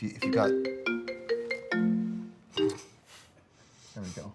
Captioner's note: phone ringing